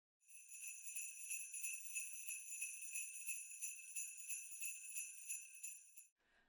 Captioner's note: sleigh bells